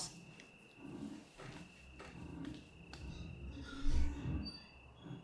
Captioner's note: object scraping